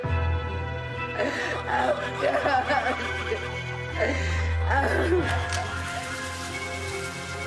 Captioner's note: Roslyn sobbing over ghostly voices chattering